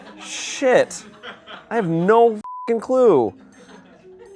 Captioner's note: laughter; beep